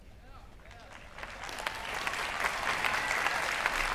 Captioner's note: applause